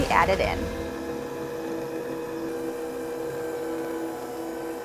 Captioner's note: mixer whirring